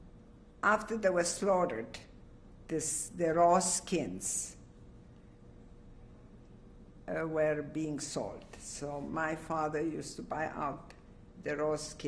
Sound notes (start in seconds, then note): 4.4 pauses for 3 seconds